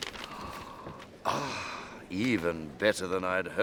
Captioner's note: sighs happily